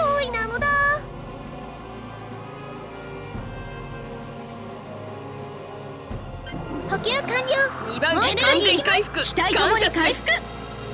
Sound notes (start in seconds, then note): none